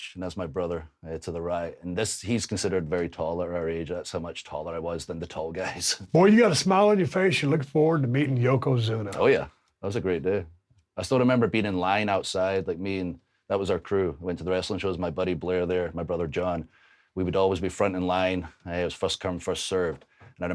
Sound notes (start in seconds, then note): none